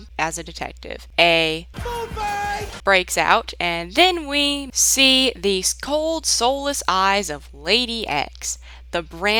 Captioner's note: yells “Foodfight!”